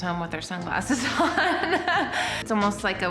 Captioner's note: laughs